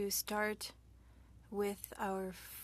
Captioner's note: speaking French